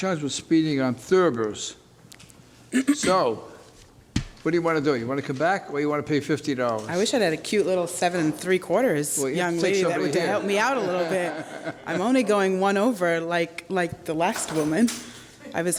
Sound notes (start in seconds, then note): 10.2 laughter